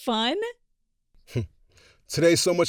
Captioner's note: chuckles